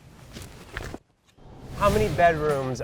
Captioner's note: thuds; air whooshes